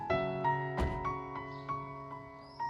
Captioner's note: car door closes